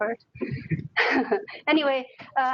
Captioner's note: laughing